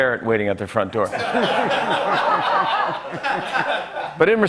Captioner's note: laughter